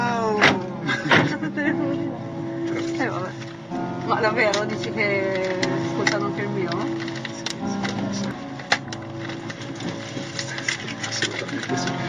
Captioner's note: laughing